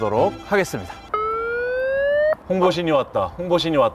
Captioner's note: wee-woo-wee-woo